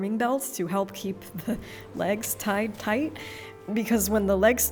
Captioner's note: laughs